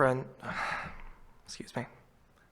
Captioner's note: sighs